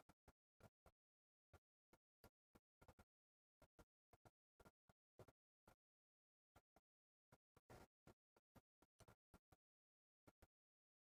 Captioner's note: silence